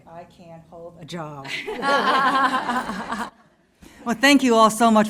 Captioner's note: laughter